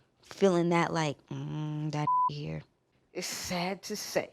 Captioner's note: beep